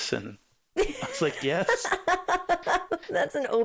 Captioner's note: laughing